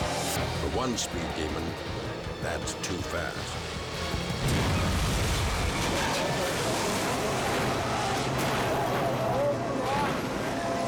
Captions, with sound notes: For one speed demon, that's too fast. (car crashing) (people shouting)